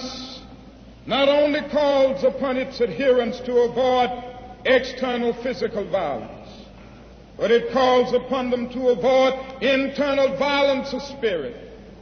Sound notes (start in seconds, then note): none